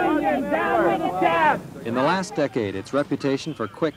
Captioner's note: chanting